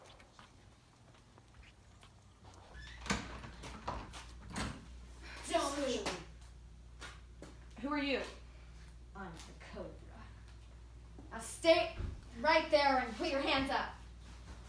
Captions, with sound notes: (door clatters) - Don't move. - Who are you? - I'm the Cobra. Now stay right there and put your hands up.